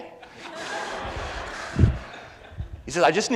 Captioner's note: audience laughs